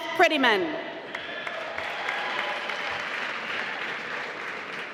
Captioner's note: applause